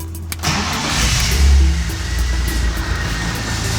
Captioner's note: engine revving